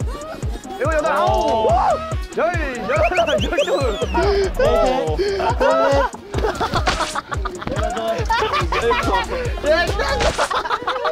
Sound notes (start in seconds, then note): 8.2 hahahahahaha